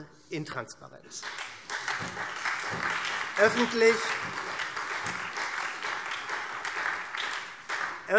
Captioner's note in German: Beifall SPD und Freie Demokraten